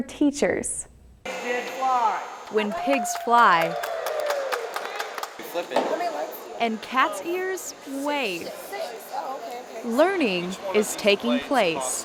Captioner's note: crowd cheering